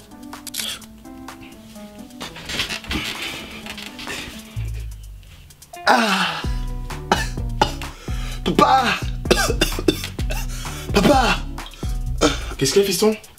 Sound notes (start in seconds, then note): 8.2 coughing